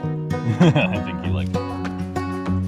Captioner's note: laughs